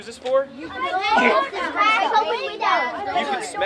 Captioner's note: children chattering